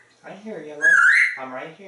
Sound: whistle

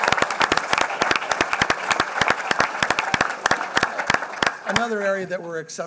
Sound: applause

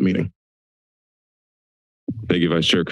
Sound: silence

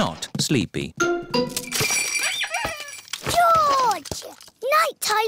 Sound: bells ring and toys squeak

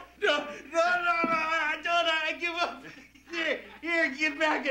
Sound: laughter

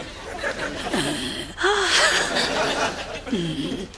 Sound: Jen grunts

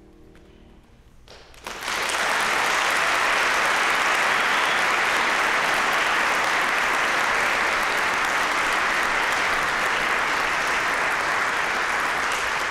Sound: applause

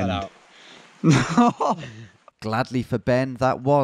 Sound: loudly laughs

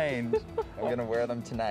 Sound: laughs

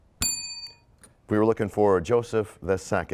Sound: bell rings, time expires

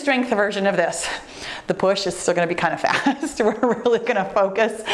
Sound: laughs

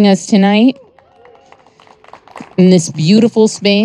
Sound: audience applauding

